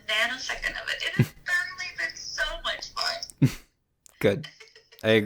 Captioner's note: laughs